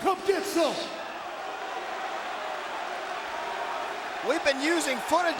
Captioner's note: crowd exclaiming